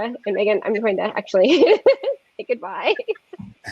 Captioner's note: laughs